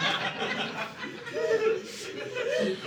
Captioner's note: audience laughing